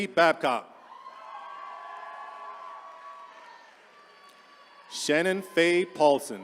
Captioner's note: attendees cheering